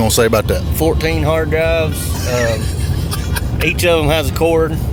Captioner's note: laughs